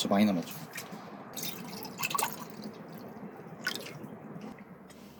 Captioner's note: A clear and fine sound of refilling cups whenever you hear it